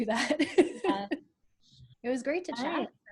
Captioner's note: laughs